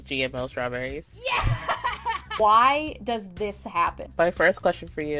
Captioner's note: screme laughs